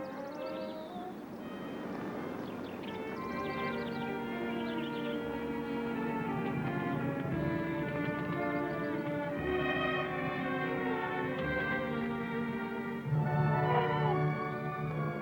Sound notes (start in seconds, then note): 5.1 fire crackling